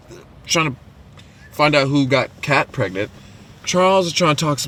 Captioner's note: none